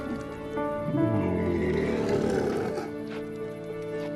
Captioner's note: camel bleats